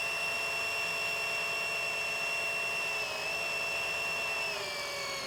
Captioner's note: pump whirring